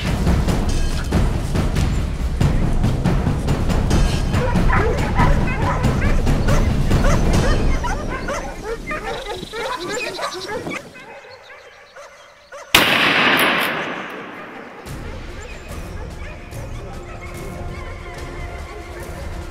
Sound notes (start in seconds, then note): 4.3 dogs barking; 4.3 dramatic music; 12.7 gunshot; 16.2 dogs barking; 16.2 tense music